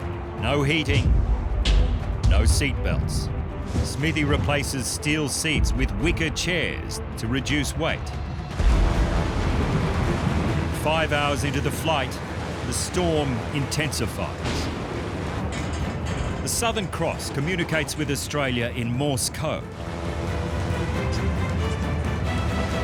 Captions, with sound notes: No heating, no seatbelts. Smithy replaces steel seats with wicker chairs to reduce weight. Five hours into the flight, the storm intensifies. [rattling] The Southern Cross communicates with Australia in Morse Code. [uplifting music]